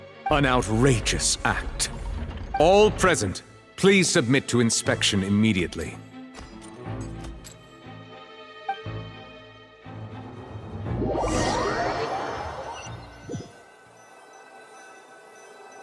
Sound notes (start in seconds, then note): none